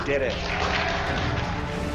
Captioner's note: applause